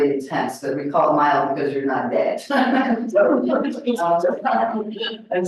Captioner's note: laughs